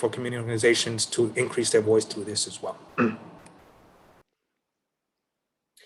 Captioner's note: clears throat